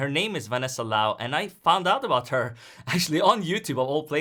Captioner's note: chuckles